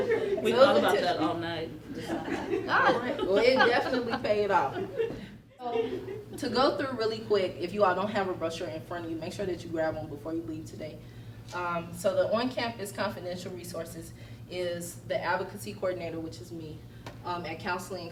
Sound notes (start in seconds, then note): 1.9 laughter